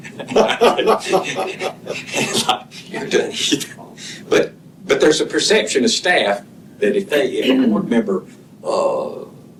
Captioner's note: laughter